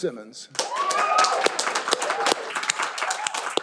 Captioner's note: all applauding